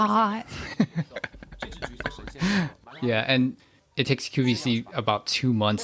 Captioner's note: laughs